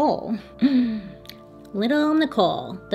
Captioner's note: inhales deeply